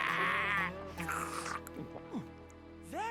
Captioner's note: slurping